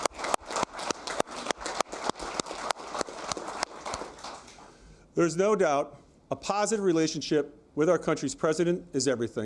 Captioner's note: applause